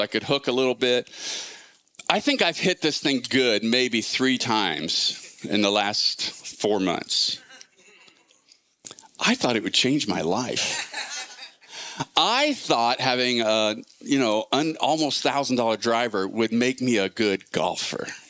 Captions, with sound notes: could hook a little bit. I think I've hit this thing good, maybe three times in the last four months. I thought it would change my life. (congregation laughing) I thought having an almost thousand dollar driver would make me a good golfer.